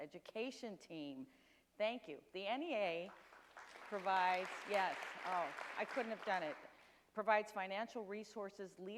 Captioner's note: audience applauds